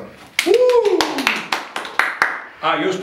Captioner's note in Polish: aplauz